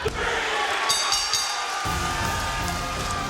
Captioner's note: bell dinging; upbeat orchestra music